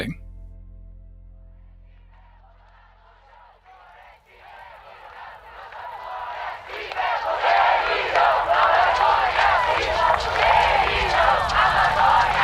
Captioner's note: protest chants